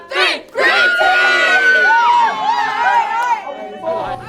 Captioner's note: all cheering